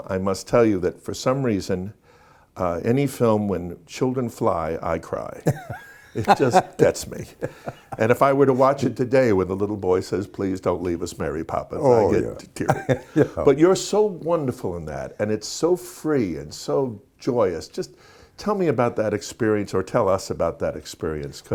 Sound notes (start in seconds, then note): 5.4 laughing